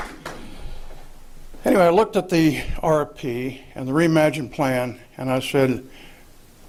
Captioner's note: applause